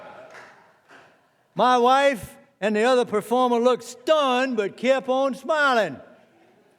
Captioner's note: laughter